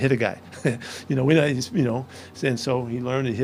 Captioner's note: giggles